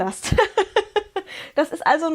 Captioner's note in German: gelächter